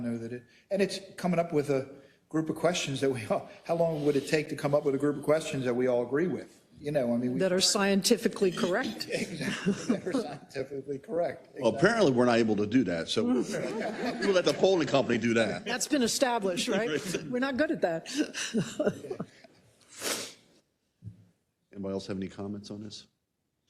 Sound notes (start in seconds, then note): 9.1 laugh; 18.0 laugh